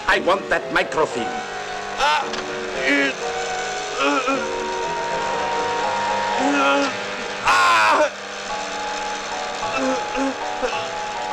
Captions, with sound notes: I want that microfilm. [GRUNTING]